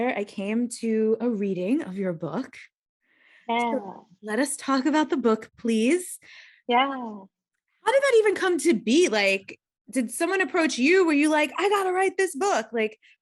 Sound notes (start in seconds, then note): none